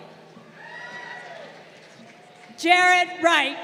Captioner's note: crowd cheering